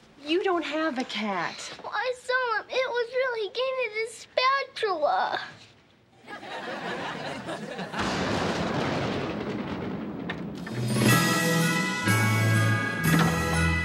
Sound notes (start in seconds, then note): 6.2 audience laughing; 7.8 thunder booming; 10.7 christmas music